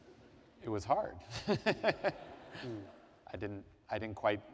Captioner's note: laughter